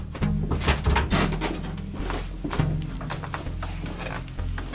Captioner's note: pensive synth music; steps creaking